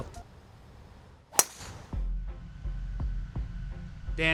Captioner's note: club pinging